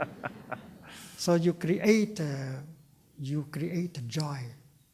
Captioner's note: laughter